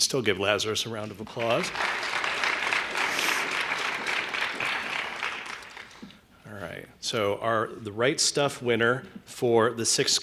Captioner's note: applause